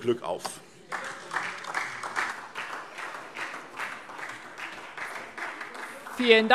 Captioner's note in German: Beifall SPD und vereinzelt DIE LINKE